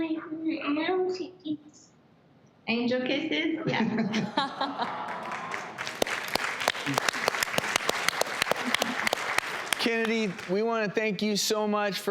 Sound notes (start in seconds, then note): 3.7 laughing; 6.4 audience applause